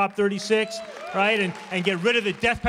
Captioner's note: applause